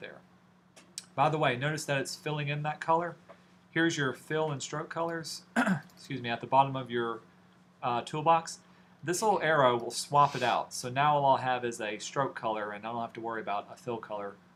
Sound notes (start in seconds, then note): 5.5 coughs